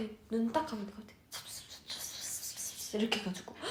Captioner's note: whispering